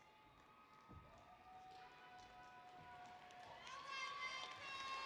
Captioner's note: applause